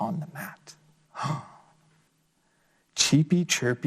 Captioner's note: gasps